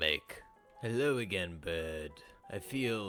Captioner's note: in normal accent